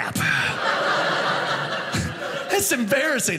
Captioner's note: audience laughing